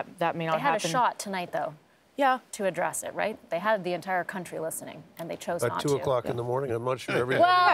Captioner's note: laughter